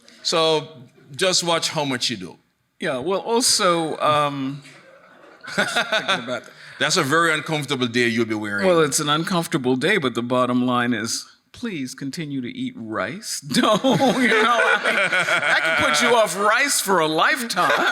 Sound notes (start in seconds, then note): 4.7 laughing; 13.6 laughing; 13.6 laughs; 13.6 audience laughing; 17.5 laughing